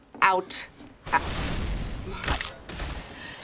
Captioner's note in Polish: eksplozja w pobliżu